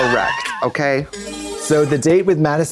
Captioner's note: bright chime